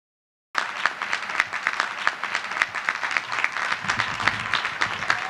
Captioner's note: applause